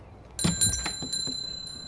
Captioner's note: door bells